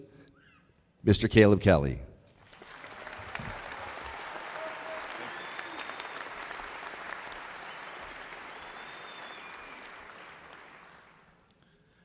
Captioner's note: applause